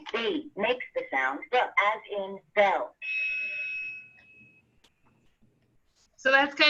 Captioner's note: bell rings